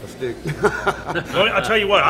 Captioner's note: laughing